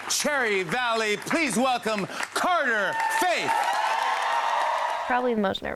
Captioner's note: crowd cheers